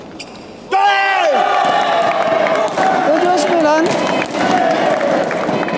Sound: applause

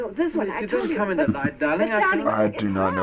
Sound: couple arguing

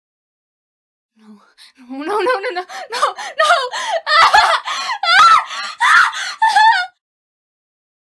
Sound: female voice in agony

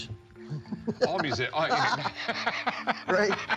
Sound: laughter

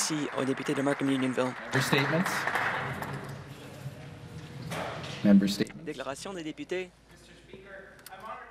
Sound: applause

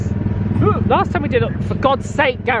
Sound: yelps

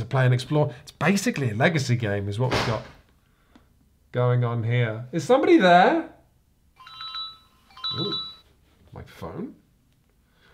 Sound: door slams; phone ringing

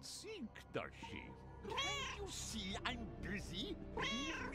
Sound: Hodge meowing

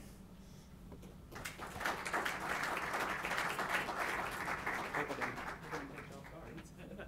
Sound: applauding

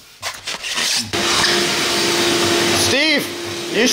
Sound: vacuum whirring

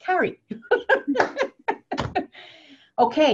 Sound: laughs

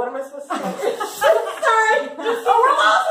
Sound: all laugh

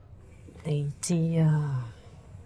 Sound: speaks cantonese

